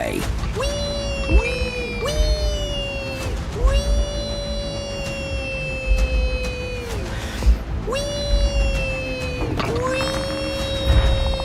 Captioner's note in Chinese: 小孩在遊樂園開心的聲音